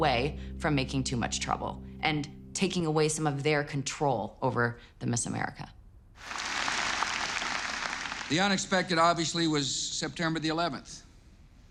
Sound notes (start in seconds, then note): 6.2 audience claps